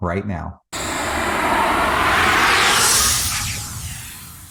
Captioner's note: logo whooshing